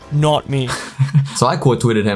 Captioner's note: laughs